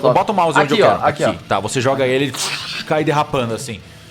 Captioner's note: scrape